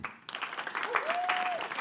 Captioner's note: audience applauding